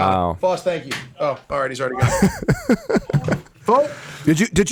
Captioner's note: laughs